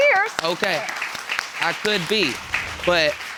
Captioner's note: audience applauding